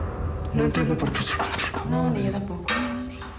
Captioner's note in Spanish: habla con dificultad